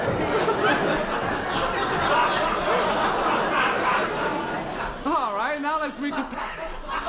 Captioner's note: laughter